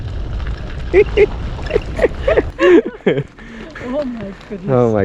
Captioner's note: laughing